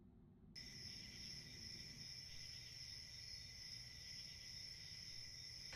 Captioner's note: night Sounds